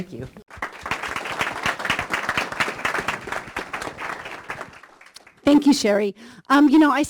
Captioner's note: applause